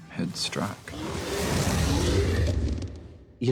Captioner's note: smaug roars